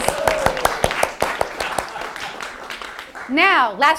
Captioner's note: applause